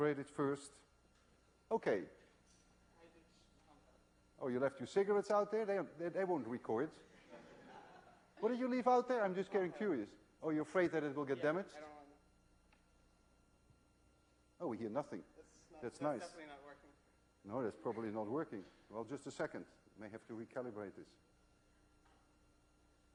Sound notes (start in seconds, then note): 7.1 laughter